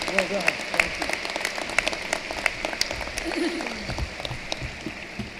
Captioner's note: cheering and applause